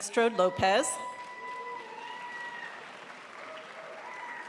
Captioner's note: crowd applauds